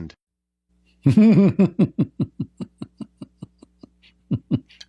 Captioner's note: Ketawa